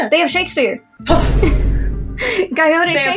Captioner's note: Vine Boom; chuckle